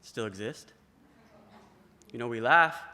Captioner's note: laughter